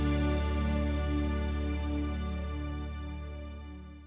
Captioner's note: birds chirping